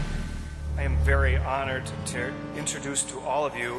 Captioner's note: voiceover